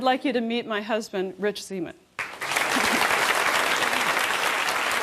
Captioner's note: applause